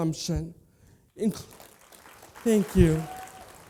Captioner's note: applause